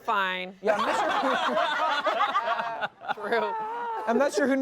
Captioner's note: everyone laughs